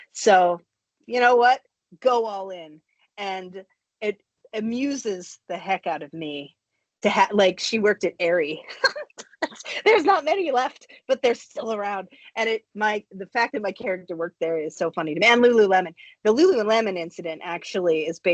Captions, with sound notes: So you know what? Go all in. And it amuses the heck out of me to-- like, she worked at Aerie. [CHUCKLES] There's not many left, but they're still around. And the fact that my character worked there is so funny to me. And Lululemon. The Lululemon incident actually is